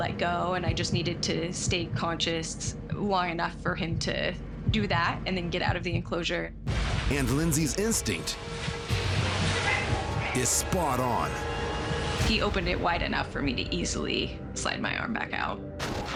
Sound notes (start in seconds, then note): none